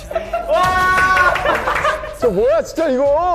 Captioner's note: cheers